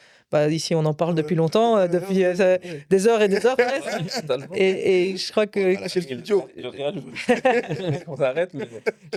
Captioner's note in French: rires